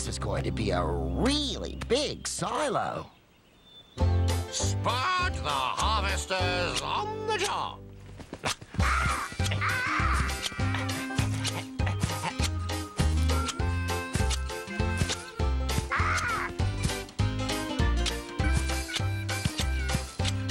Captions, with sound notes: THIS IS GOING TO BE A REALLY BIG SILO. SPUD THE HARVESTER'S ON THE JOB! ( Clip! Clip! Clip... ) ( Cawing )